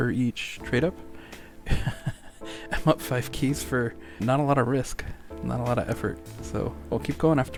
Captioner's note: laughter